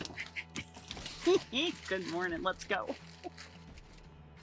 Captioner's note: giggles